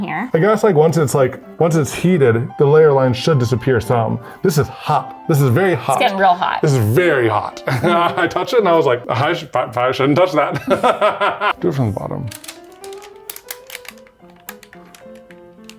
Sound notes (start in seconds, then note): 10.5 laughs; 12.8 bright music